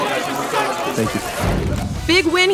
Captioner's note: air whooshing